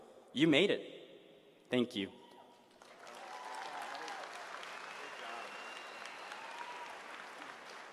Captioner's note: applause